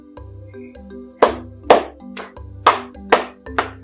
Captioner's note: claps hands